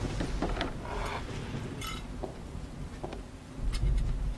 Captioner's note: zipper